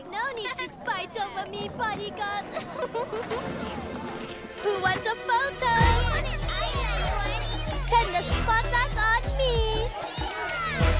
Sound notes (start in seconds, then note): 2.4 giggles